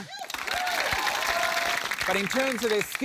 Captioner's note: cheering, applause